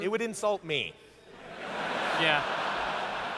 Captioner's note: laughter